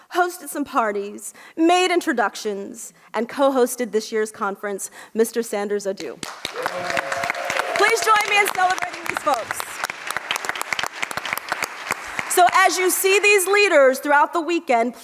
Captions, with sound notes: hosted some parties, made introductions and co-hosted this year's conference. Mr. Sanders Adu. (audience applauds) Please join me celebrating these folks. So as you see these leaders throughout the weekend,